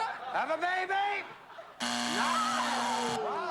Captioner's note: buzzer